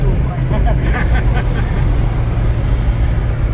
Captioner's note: laughs